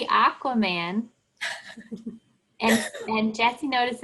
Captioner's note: laughing